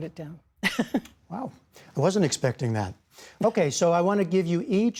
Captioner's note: laughter